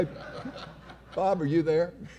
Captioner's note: laughing; audience laughing